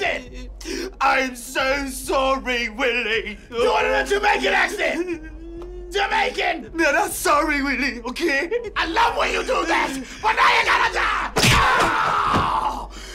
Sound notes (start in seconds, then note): 0.3 british accent; 6.5 caribbean accent